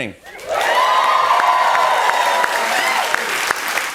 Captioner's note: cheers and applause